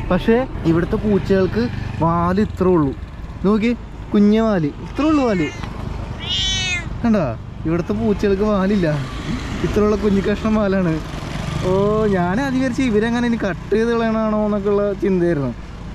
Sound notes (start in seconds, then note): 6.1 meow